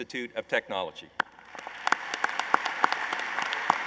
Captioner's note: applause